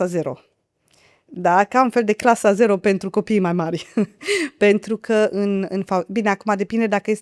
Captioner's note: laughter